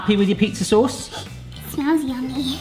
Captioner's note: sniffs